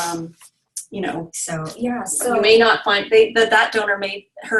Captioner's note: stammering